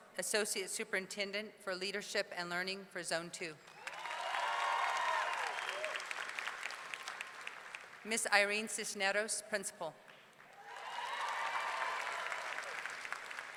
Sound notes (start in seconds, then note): 3.7 audience cheering; 10.5 audience cheering